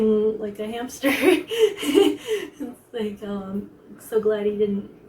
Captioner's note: laughs